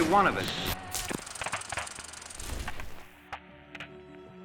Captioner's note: projector clattering; gentle solemn music